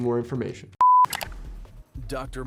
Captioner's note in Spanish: el carrete de video emite un pitido